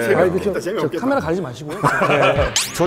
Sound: haha

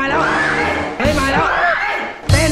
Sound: screams

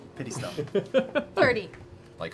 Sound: laughing

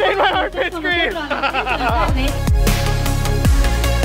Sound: laughing; upbeat music

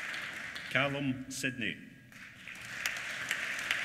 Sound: applause

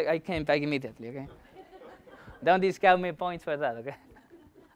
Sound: laughter

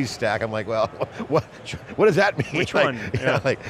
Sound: laughing

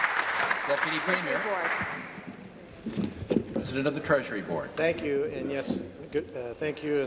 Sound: applause

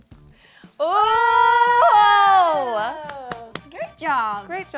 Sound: both cheer

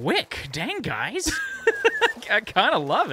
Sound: laughs

